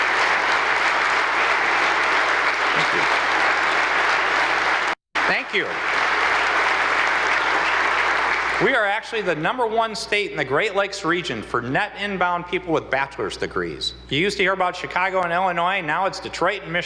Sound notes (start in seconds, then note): 5.8 applause